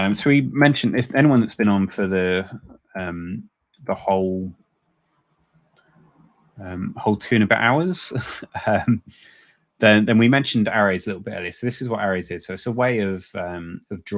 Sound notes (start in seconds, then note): 8.0 chuckles